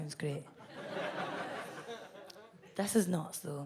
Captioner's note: audience laughs